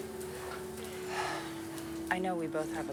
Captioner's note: sighs